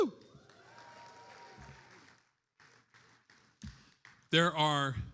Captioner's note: attendees applauding